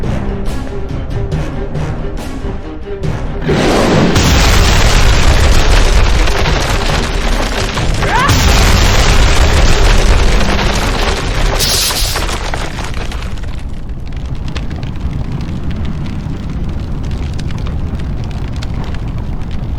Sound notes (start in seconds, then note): 3.9 creature roaring; 3.9 explosion booming; 8.1 Xu Xang grunting; 8.1 explosion booming; 11.5 electricity crackling